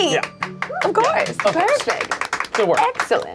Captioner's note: claps